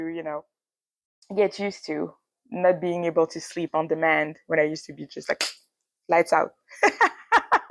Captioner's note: clap; laughs